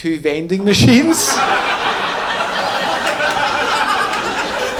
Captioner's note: audience laughing